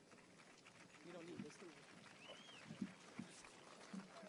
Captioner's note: audience applauds